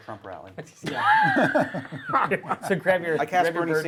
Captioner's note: laughter